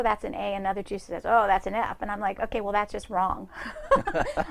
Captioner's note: both laughs